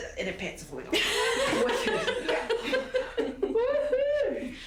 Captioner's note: both laugh